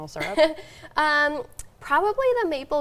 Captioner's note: chuckling